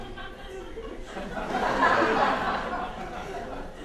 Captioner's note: audience laughter